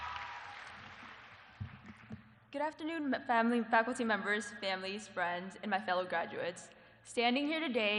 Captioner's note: applause